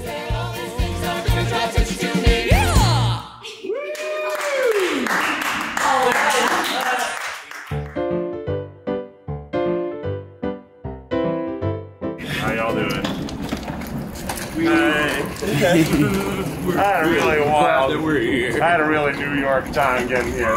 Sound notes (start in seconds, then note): 0.0 upbeat music; 2.4 all cheering; 7.6 peaceful music; 15.3 all laughing